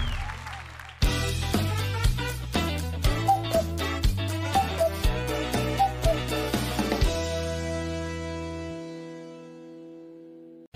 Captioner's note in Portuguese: aplausos